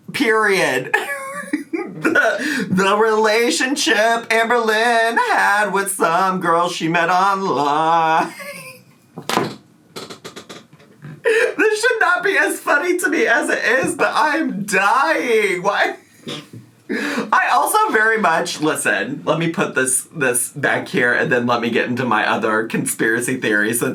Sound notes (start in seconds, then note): 0.9 laughs; 8.2 laughs